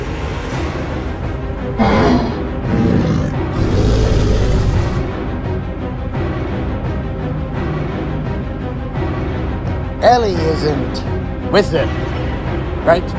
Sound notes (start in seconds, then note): 0.0 dramatic music; 1.7 growling